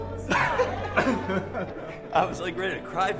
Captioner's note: laughs